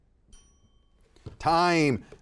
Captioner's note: bell ringing